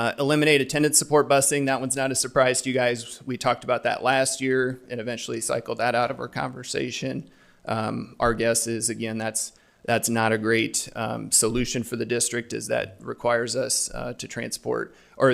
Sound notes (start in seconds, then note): none